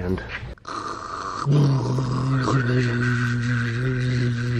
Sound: imitates water jet

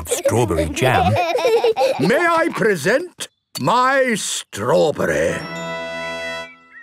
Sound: laughing

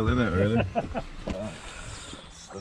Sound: laughing

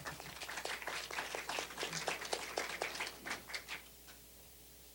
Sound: applause

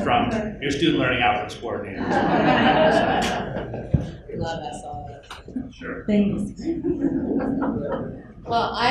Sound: laughter

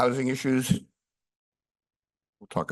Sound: pause

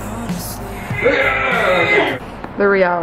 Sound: both grunt

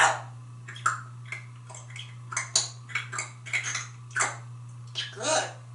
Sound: lip smacking/sound of eating

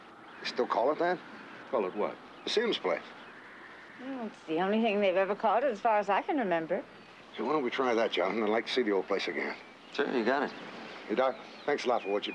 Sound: laughs

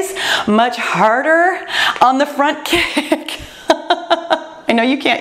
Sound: laughs

